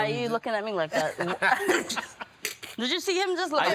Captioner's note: Buddy laughs